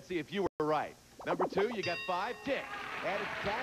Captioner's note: audience applauding